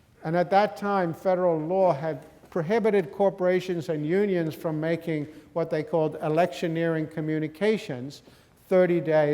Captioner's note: none